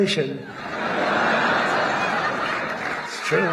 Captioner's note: laughter